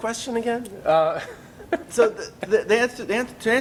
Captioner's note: both laugh